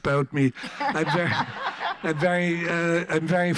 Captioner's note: audience laughs